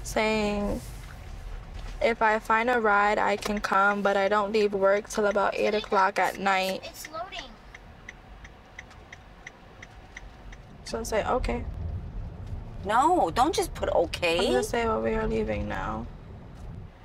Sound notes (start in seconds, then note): 6.7 children talking in the background